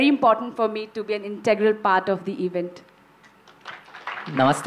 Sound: applause

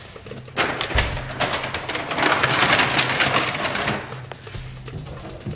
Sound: paper bag rustling; cabinet door clunks; cabinet door thudding

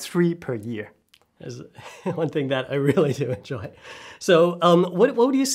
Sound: laughs

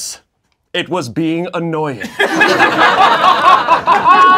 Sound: laughing

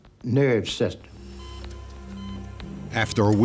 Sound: monitors beeping

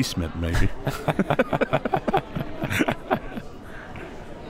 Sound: laughs

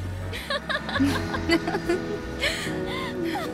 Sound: Yashodhara laughs

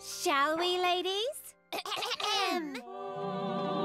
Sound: all clear throats; all singing eerily

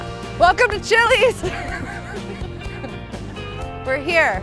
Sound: upbeat music; laughing

